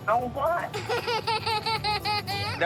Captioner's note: laughs